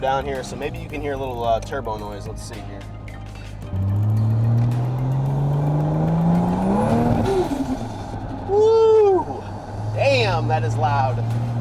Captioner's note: engine Revving